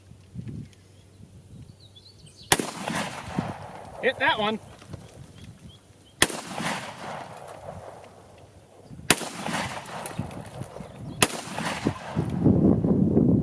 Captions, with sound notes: (gun fires) Hit that one. (gun fires many times)